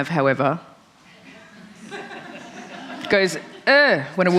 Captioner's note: laughter